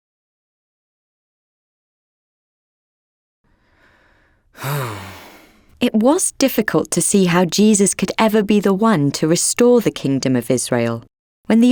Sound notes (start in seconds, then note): 4.5 Judas sighing